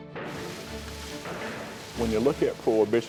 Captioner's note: liquor splashing